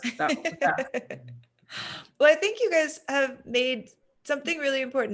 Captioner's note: laughs